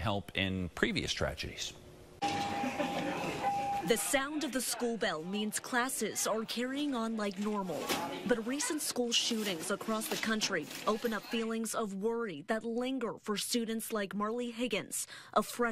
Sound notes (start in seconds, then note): 2.2 school bell rings